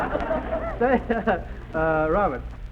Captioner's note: audience laughs